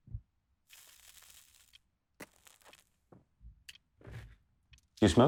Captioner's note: cigarette hisses